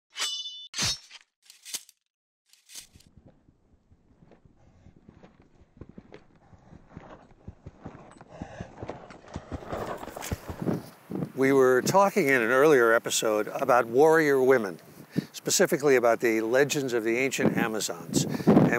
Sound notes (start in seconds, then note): 0.1 swords slashing; 3.1 horses galloping